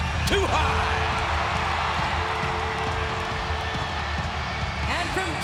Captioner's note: audience cheering; upbeat music